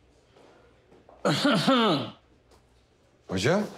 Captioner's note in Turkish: Öksürüyor